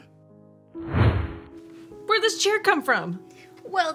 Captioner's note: whooshing